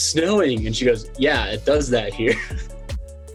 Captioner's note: laughs